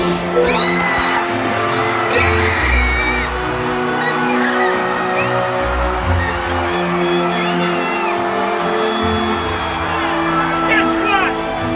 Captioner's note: cheering; screaming